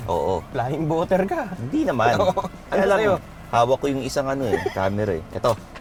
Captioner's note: laughs